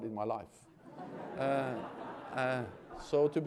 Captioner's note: laughter